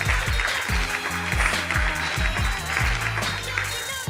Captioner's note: applause